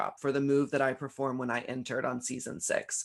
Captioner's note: none